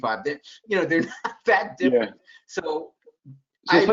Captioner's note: laughs